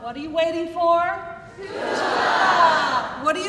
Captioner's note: crowd